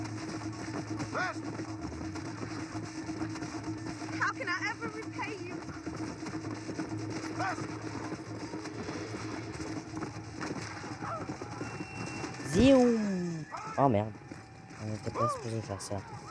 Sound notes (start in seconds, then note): 0.0 creepy mission music; 2.3 creepy mission music; 6.3 creepy mission music; 9.3 creepy music; 13.2 shouts of flash